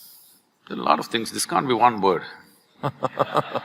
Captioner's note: laughter